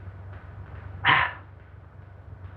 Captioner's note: sigh